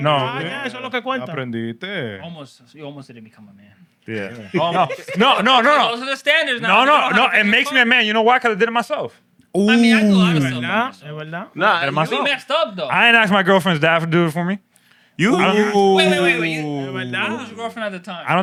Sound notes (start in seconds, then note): 1.1 speaking Spanish